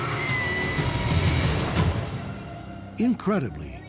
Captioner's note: woman screaming